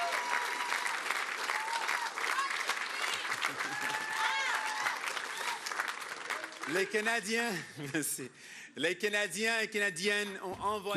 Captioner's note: applause